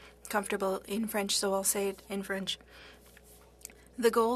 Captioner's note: speaking French